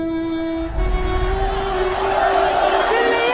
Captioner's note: crowd noise